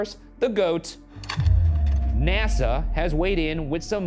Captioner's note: slide projector clicks